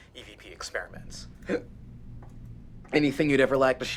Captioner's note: hiccoughs